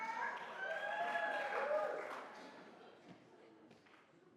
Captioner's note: audience cheers